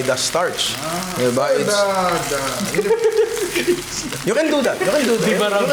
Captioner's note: stutters; laughs